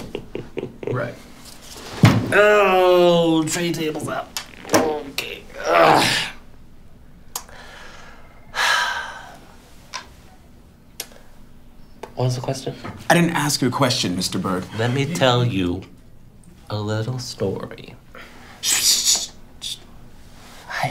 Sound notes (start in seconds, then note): 0.0 chuckles; 2.3 groan